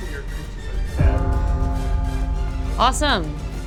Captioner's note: gong chiming